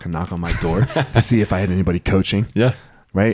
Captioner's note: laughs